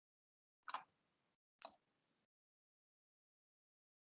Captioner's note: mouse clicking